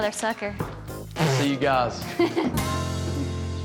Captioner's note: laughs